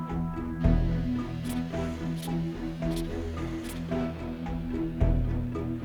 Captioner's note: polygraph scratching